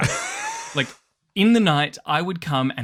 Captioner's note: laughs